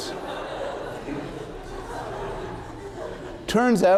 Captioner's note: laughter